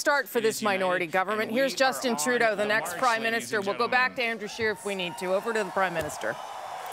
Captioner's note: cheers and applause